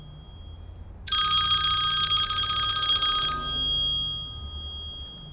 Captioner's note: phone ringing